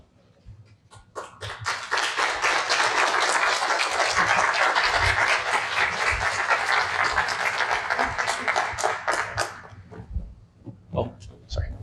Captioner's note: applause